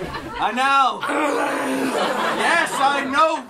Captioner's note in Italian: verso da dinosauro